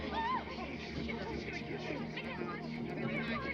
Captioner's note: all gasp; panicked chatter